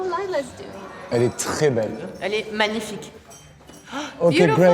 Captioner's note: both speaking a foreign language